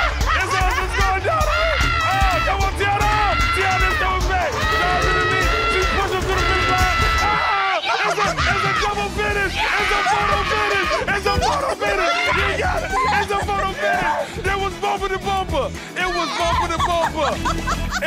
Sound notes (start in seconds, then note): 0.0 all screaming; 4.5 Teyonah screaming; 7.6 all screaming; 16.2 Teyonah laughing